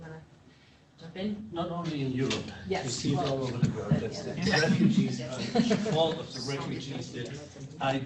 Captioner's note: laughter